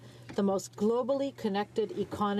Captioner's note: speaking French